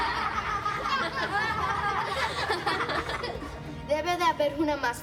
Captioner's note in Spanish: Risas